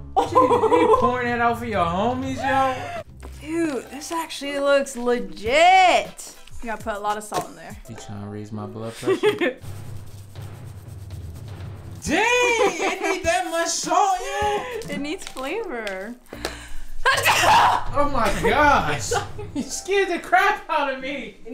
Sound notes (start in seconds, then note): 8.9 laughing; 9.5 dramatic music; 17.1 sneezing